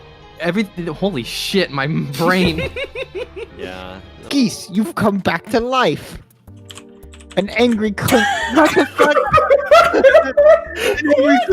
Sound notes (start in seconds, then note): 2.0 laughing; 4.5 Picard voice; 9.8 laughing